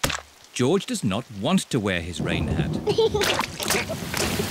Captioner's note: giggling; thunder rumbling